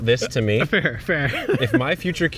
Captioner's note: laughing